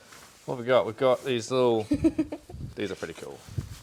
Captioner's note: chuckles